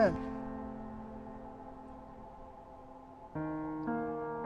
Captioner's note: muted